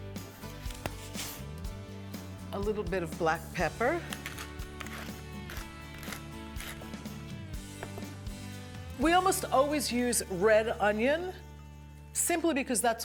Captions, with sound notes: A little bit of black pepper. (peppercorns cracking) We almost always use red onion simply because that's what's